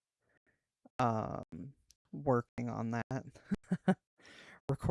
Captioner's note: anxious laughter